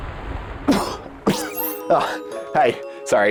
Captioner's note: coughs